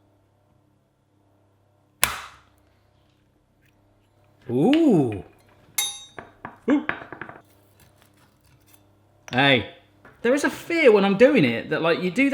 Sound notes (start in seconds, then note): 2.0 cracking; 5.8 clanging